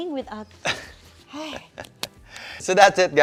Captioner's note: sighs